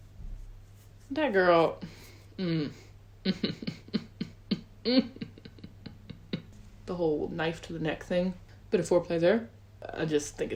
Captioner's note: hums in approval